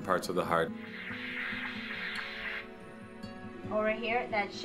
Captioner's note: ultrasound wooshing